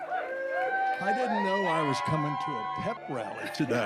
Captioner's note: cheers